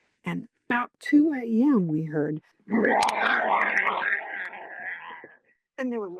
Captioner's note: growling sound